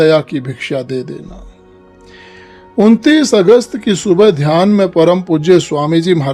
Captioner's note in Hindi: अचानक ज़ोर से सांस लेने की आवाज़